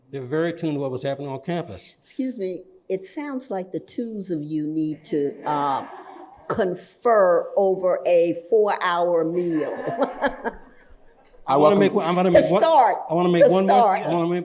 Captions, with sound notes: They're very tuned to what was happening on campus. - Excuse me. It sounds like the tools of you need to confer over a four-hour meal. (laughs) - Just start. Just start.